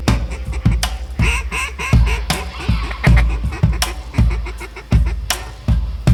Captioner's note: quacking